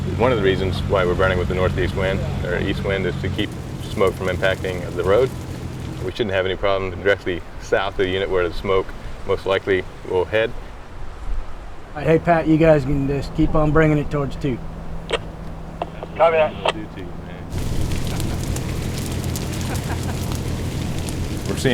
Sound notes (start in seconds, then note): 12.0 speaking on radio; 16.0 voice on radio; 18.0 sounds of crackling flames, murmuring voices, a laugh